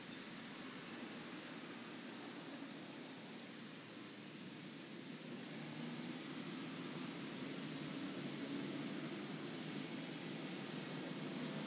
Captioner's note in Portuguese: ruído da rua e carros ao fundo